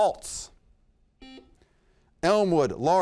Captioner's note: buzzer beeps